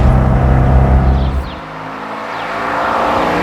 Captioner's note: engine's rpm grows; car getting closer and closer